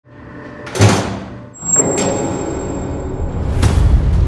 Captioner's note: metallic thudding; intense percussive music playing